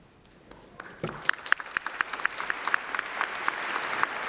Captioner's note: applause